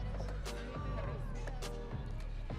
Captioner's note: audience cheering